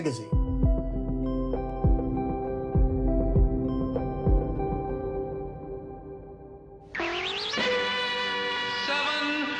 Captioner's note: soundbite of tv show, "sesame street"